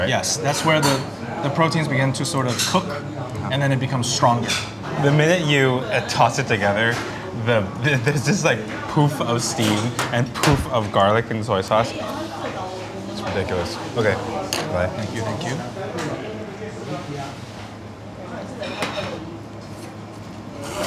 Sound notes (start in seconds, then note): 12.2 group chattering; 16.7 group chattering